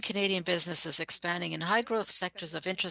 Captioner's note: speaking French